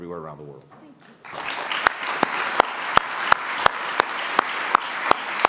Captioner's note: applause